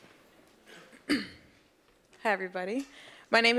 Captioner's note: cough